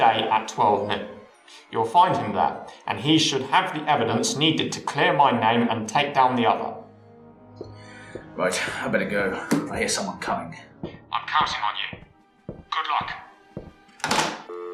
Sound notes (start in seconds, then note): 7.6 footsteps outside office; 14.5 speaking buzzing sounds